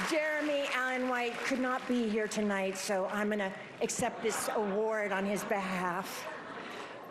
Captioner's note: applause